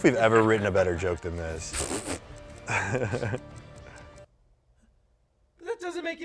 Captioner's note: laughs